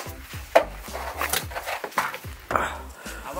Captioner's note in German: Klettergeräusche und Stöhnen